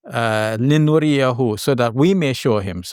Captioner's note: speaking Arabic